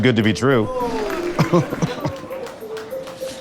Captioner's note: chuckles